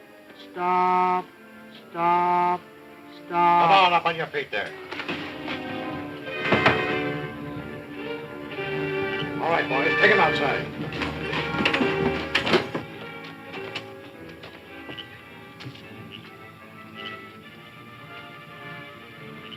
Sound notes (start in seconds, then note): 5.3 suspenseful music; 15.8 frog croaking